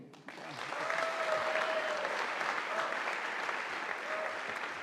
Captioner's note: audience applauding